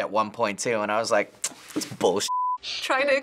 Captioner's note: clicks tongue